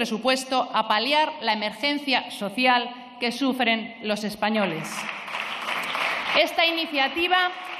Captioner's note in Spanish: Aplausos